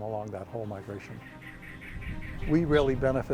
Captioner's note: insects chirping